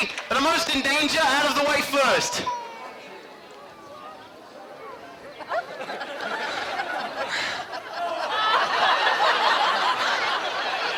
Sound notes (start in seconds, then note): 5.4 audience laughing